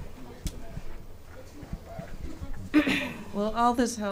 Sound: speaking off mic

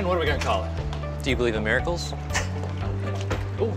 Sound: laughs

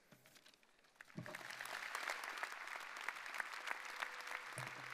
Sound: audience applauding

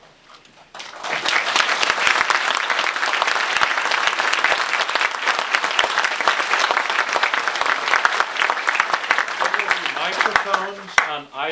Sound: applause

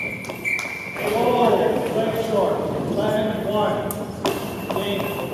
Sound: whistle

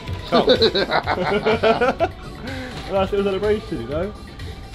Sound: all laugh

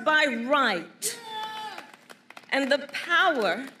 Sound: applause

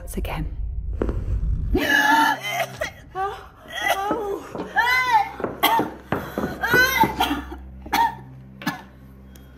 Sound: violent coughing

